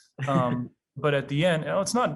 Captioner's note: laughing